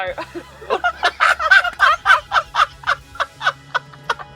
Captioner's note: both laughing